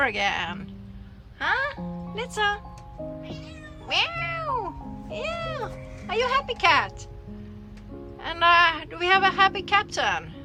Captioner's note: cat mauwing and imitates the mauw